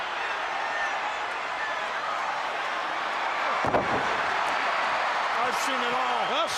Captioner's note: crowd cheering